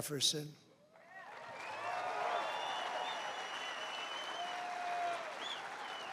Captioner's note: applause